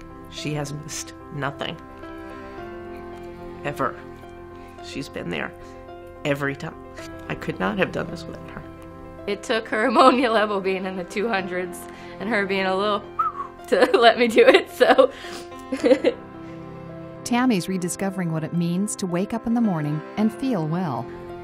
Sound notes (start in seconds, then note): 13.1 whistling; 15.6 laughing